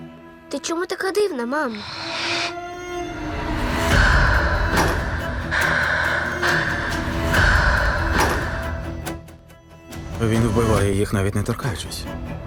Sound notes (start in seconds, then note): 1.6 sniffles